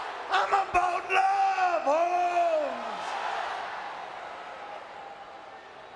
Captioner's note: crowd vocalizing